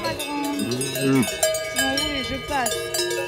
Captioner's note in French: Meuglement